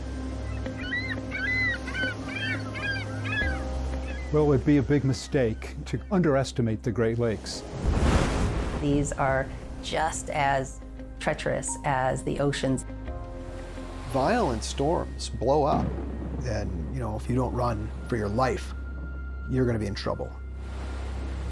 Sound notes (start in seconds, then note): 0.4 ring-billed gull makes high-pitched squeals; 7.2 waves blast lighthouse